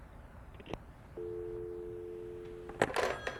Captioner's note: dial tone